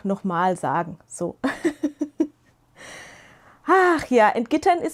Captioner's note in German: gelächter